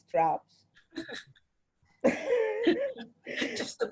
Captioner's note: both laugh